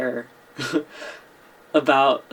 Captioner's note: chuckles